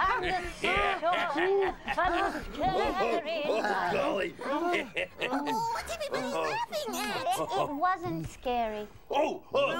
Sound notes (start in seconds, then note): 0.0 laughing